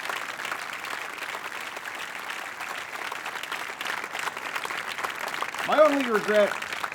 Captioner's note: applause, cheers